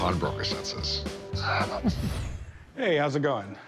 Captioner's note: laughs